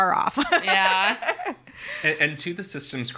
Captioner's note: laughs